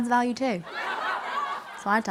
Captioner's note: crowd laughing